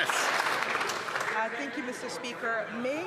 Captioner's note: some Applause